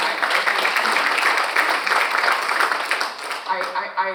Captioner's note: audience applauding